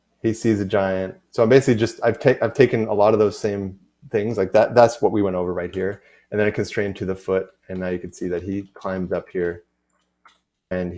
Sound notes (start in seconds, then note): none